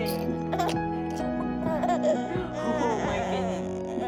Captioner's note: baby laughing